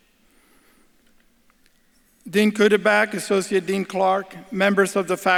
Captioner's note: none